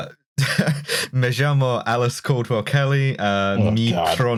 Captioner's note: laughs; laughs